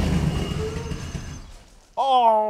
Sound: engine quits

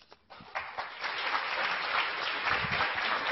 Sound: clapping

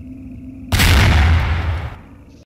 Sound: explosion

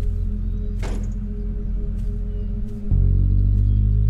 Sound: truck starts; car door slams

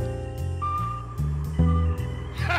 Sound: laughing

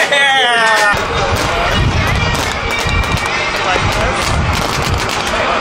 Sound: paintball guns shooting

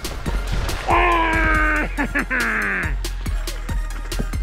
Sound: cheers

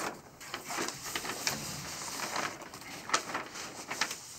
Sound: papers shuffling

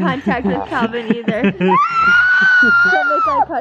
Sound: screaming

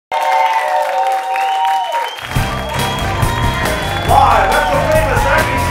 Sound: cheering

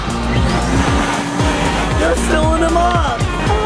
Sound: machine humming

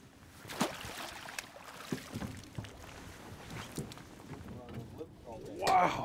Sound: clanking; fish splashing

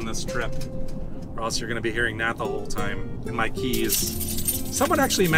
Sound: keys jangling

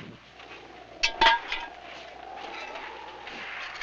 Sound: wind blowing

